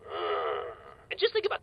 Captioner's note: groans